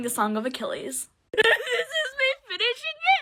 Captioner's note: cries